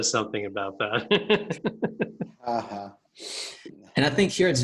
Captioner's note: laughs